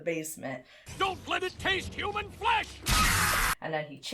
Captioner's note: cycloptopus screeches